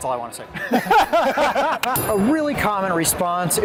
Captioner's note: chuckling